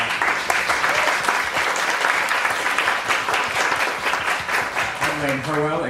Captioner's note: applause